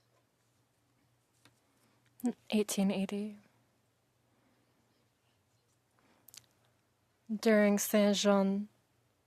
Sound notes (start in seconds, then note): 2.9 speaking French